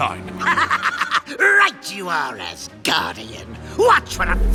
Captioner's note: laughs